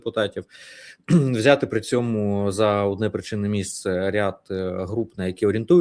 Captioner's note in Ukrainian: прочищення горла